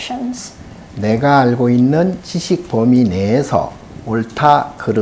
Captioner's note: speaking Korean